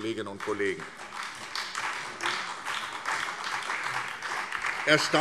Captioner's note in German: Beifall SPD und vereinzelt CDU